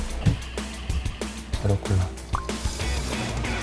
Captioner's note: pouring sound